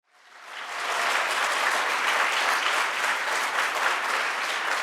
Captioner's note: audience applauding